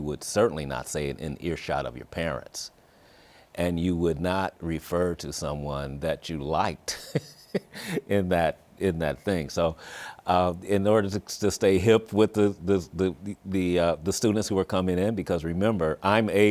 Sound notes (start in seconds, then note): 6.9 laughs